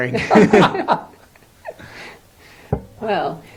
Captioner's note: laughter